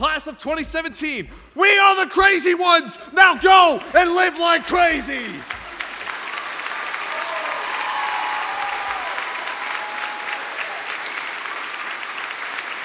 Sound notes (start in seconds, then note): 5.0 audience cheers; 7.2 audience applause